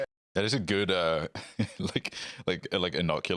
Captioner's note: laughs